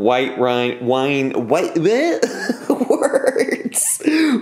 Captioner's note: laughs